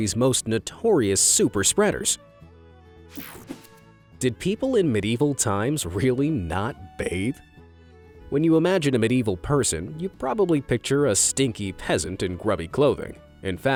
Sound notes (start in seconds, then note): 3.1 image whooshing